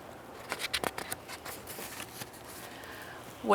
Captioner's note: paper rustling